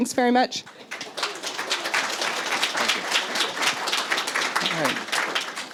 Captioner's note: applause